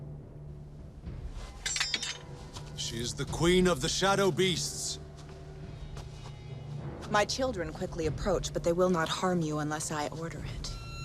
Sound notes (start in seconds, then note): 1.6 knife clattering